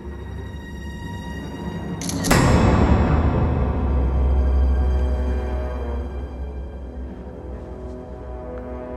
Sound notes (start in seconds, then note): 1.9 suspenseful music; 2.0 camera shutter